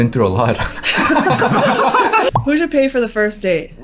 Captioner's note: laughing